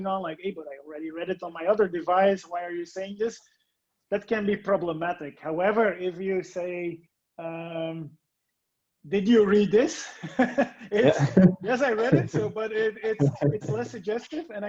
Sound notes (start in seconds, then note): 10.2 all laughing